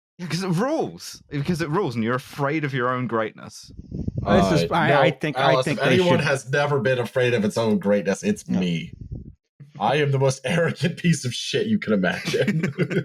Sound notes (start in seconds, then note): 4.2 many people speaking; 12.1 laughter